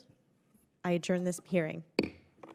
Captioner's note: gavel pounds